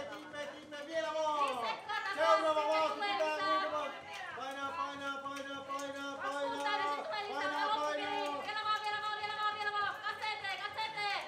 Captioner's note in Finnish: raivokasta kannustamista